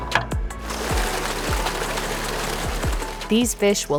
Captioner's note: water splashing